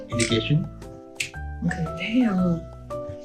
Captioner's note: snap fingers